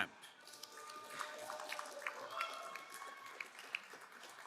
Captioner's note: crowd applauding